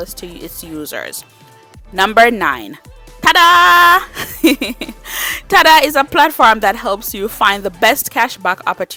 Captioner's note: laughs